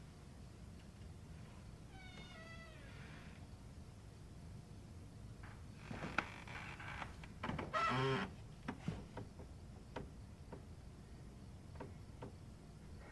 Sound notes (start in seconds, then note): 5.8 floorboard creaking